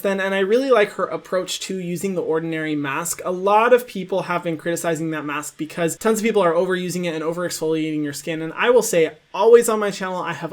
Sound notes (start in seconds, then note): none